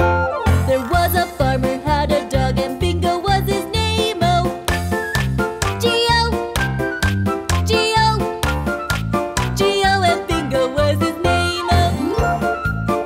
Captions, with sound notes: There was a farmer had a dog and Bingo was his name-o. (clap)-(clap)-(clap)-G-O And Bingo was his name-o.